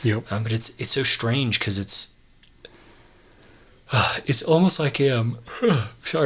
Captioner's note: yawns